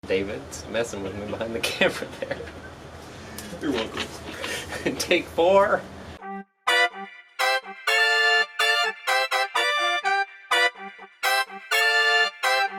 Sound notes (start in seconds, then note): 3.5 laughing; 6.2 playful upbeat music